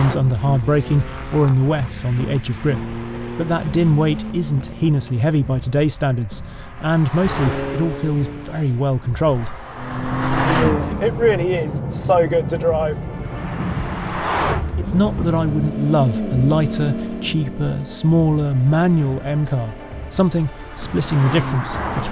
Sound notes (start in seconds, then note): 9.6 vehicle revs; 13.3 vehicle revs